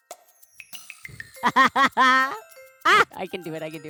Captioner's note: laughs